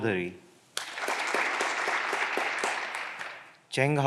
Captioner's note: clapping continues